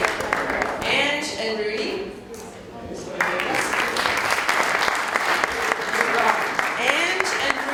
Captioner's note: cheers and Applause; applause